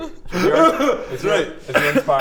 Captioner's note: cries some more